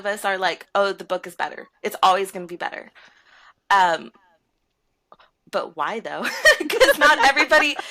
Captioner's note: laughter